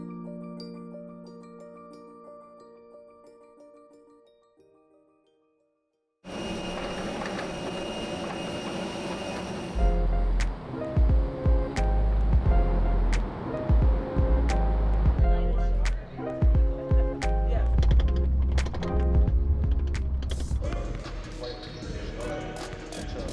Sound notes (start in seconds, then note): 0.0 uplifting music; 6.2 airplane engine whirring; 9.6 upbeat music; 20.6 court sounds